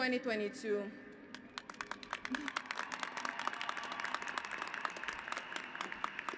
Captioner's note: applause